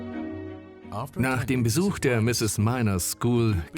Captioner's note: voiceover